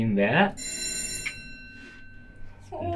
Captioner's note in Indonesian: Bell Darurat